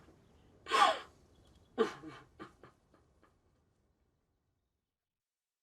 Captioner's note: sobbing